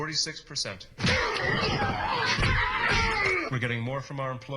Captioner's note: grunting